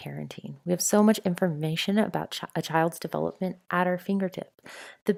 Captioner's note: breaths in